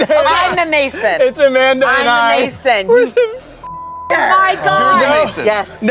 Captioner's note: beep